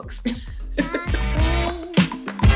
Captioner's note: laughs